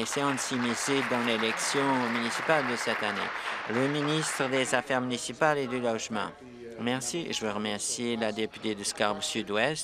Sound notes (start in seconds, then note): 2.6 applause